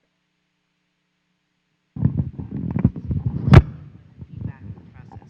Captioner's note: microphone moving